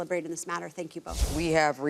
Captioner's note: screen whooshing